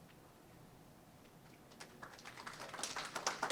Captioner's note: applause